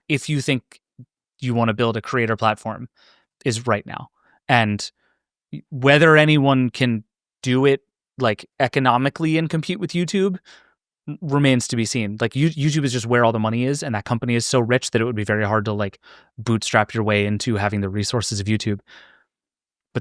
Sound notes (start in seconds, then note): none